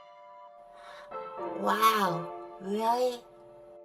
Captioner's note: gasp